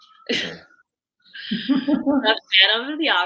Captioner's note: laughing